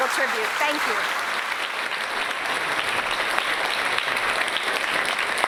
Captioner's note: applause